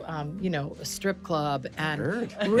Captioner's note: laughs